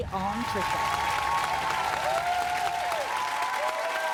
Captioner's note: clapping